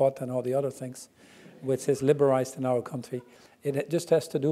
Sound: laugh

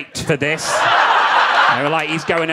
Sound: audience laughing

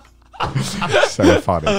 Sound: everyone laughs

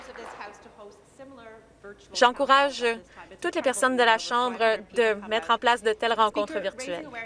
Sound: some Applause

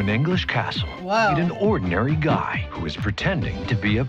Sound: voice-over

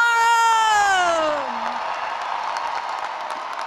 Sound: cheering and applause

